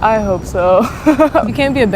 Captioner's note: laugh